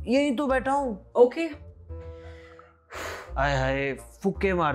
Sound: deep breath

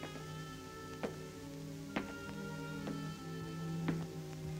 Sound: footsteps

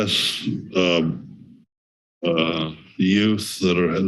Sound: pause

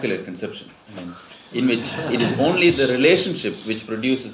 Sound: laughter

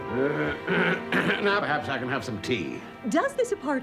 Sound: clearing throat

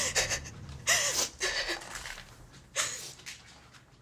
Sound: weeps

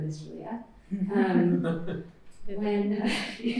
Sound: laughter

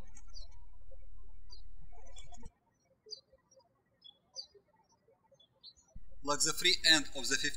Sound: birds chirping

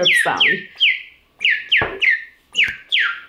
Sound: chirping

